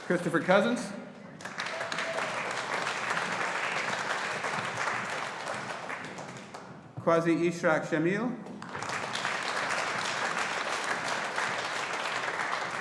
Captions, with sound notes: Christopher Cousins. (AUDIENCE APPLAUDING) Quazi Ishraq Jamil. (AUDIENCE APPLAUDING)